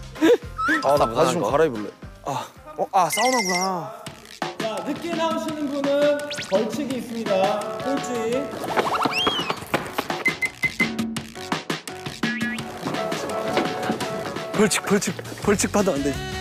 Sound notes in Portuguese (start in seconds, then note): 12.3 Com muita pressa